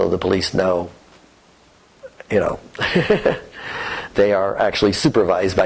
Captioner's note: laughter